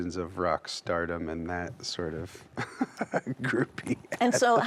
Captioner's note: laughs